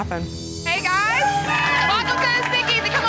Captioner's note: cheering